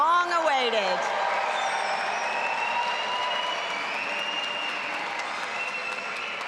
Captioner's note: audience applauding and cheering